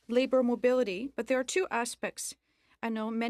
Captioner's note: speaking French